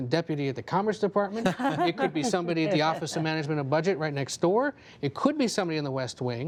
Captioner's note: laughter